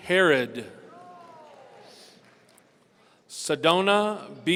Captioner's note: audience cheering